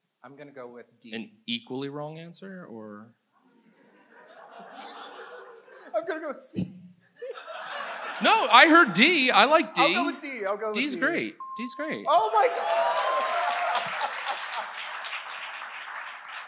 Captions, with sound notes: I'm gonna go with D. - An equally wrong answer or? (audience laughs) - I'm gonna go with C. (audience laughs) - No, I heard D. I like D. - I'll go with D. I'll go with D. - D's great. D's great. - Oh, my. (audience applauds)